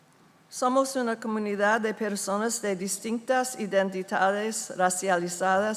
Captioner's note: speaking in foreign language